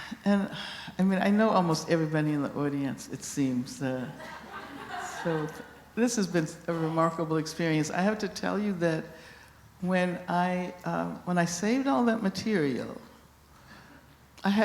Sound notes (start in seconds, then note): 4.2 laughter